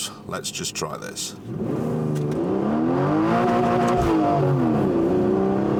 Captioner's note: car revs